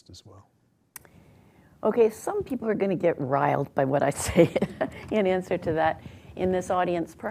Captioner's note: laughs